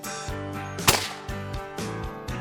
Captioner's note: gunfire shot; voiceover